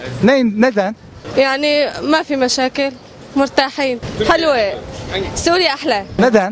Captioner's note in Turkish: arapça konuşuyor